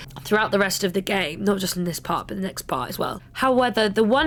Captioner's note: none